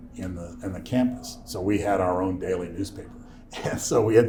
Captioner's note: laughs